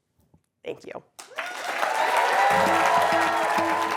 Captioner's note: applause